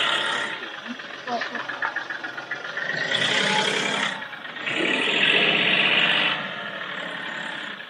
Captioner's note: loud laughter